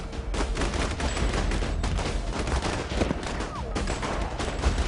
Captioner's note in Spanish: Disparos